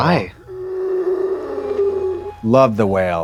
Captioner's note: the Creature groaning